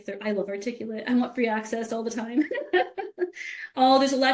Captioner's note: laughs